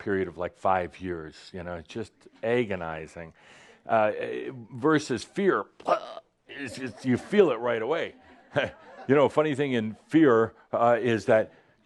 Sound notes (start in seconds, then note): 5.8 choking; 8.2 a few chuckles